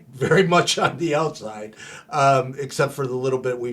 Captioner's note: laughing